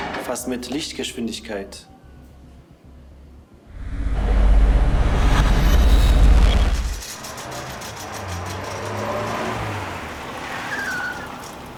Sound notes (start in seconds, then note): 3.7 loud machines; 8.3 metal rolls, car approaches